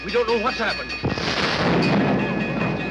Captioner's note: explosion